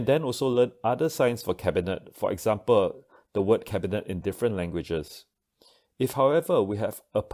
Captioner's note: German